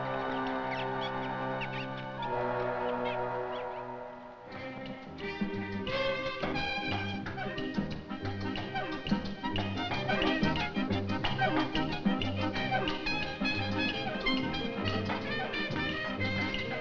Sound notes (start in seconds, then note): 0.2 suspenseful music; 1.5 monkeys squeaking; 4.4 Latin jazz music